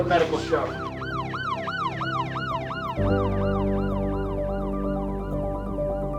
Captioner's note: ambulance blaring; dramatic music